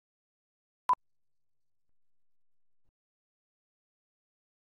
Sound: beep

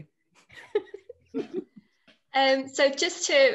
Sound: all chuckle

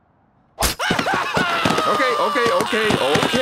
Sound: knife slicing, man screaming

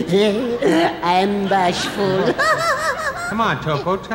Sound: laughing

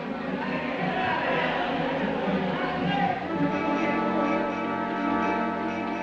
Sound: crowd chattering

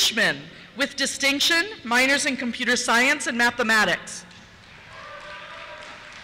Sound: cheers

